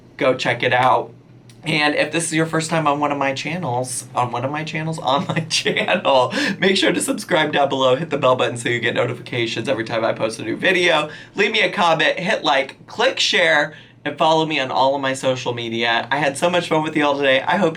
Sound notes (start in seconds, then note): 5.0 chuckles